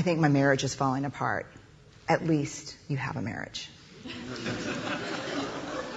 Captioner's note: laughter